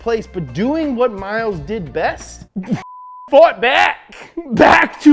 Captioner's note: beep